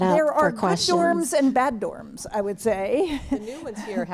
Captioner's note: laughter